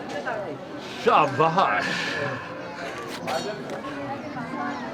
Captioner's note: non-english speech